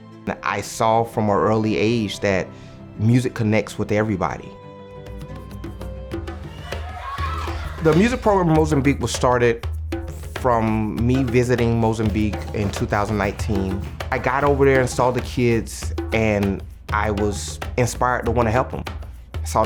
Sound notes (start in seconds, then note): 6.6 children chattering